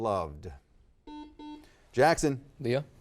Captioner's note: buzzer beeping